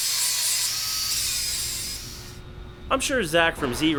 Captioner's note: grinder doing it's noise... again